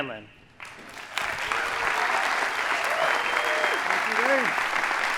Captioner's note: audience applauding